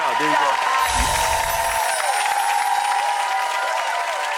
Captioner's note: audience applause